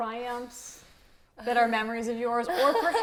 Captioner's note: laughs